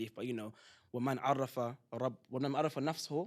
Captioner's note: non-english